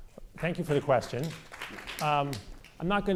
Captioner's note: audience applause